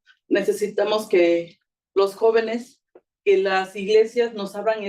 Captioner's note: speaking Spanish